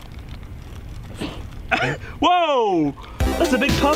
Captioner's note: laugh/cough?